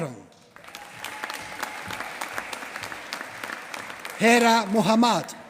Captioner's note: applause